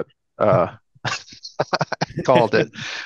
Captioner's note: laughs